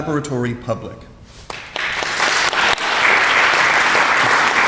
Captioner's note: audience applauds